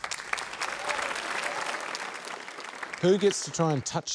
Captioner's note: applause